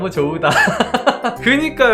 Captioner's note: laughing